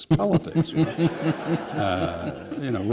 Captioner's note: laughter